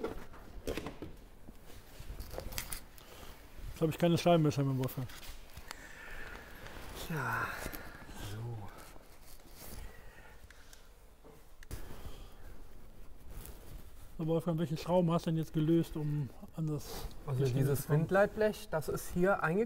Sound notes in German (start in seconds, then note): 5.7 Tiefes Seufzen